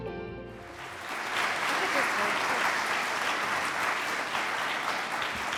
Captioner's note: audience applauds